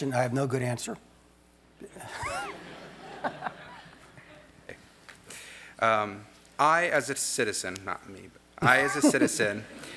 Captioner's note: laugh